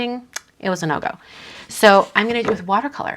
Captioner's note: clicks tongue